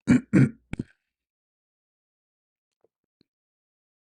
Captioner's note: clears throat